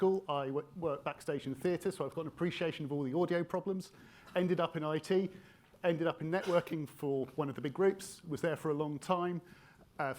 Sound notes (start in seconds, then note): 6.3 attendee coughs